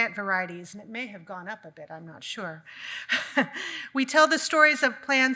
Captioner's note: laughs